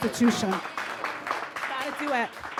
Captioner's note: audience claps